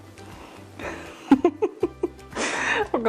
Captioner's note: laughing